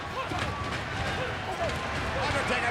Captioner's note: crowd cheering